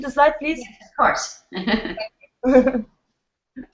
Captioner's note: both laugh